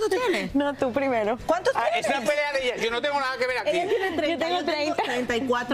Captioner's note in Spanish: risas